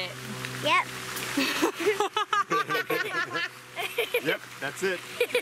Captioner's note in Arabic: يضحك